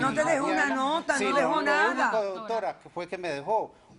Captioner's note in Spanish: Hablan al unísono